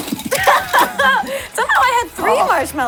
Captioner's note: laughs